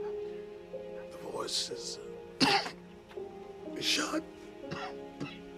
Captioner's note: coughing